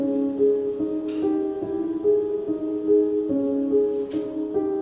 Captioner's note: switch clicks